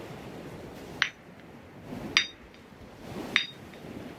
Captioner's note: ocean waves; hammering